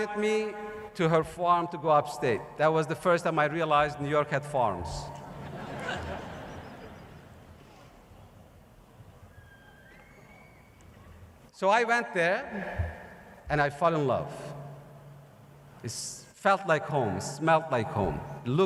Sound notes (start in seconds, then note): 8.1 laughter